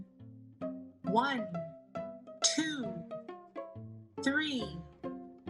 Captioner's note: automated Voice